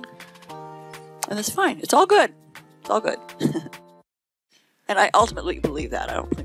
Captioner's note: laughing